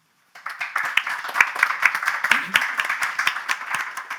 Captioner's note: applause